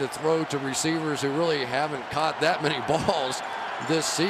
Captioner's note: crowd cheering